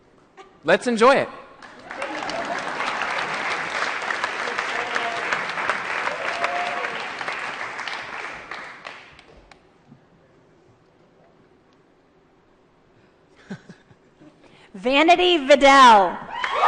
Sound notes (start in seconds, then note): 1.6 applause